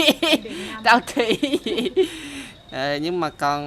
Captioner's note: laugh